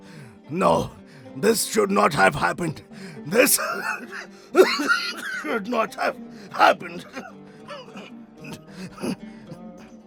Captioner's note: coughs